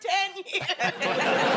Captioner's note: laughing